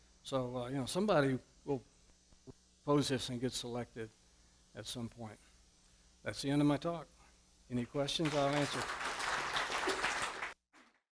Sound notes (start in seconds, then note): 8.2 applause